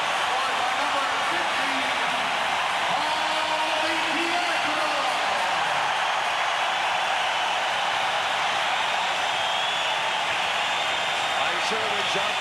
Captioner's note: cheers and applause